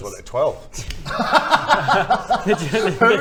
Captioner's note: laughs